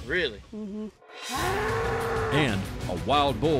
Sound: bull mooing

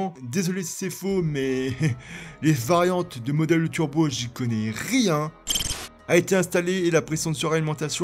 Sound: beep

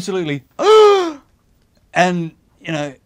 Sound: gasps

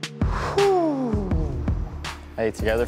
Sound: exhaling sharply

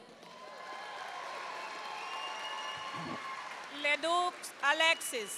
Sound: audience cheering and applauding

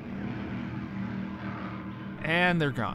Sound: motorboat roaring

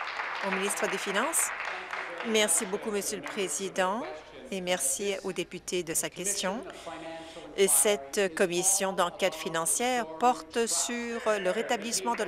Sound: applause

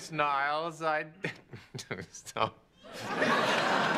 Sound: chuckles

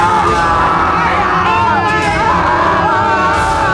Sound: screaming

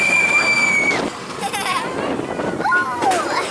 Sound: laughs

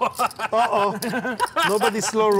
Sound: laughing

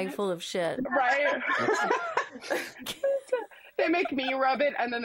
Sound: laughs

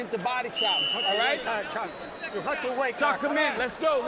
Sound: whistle blows

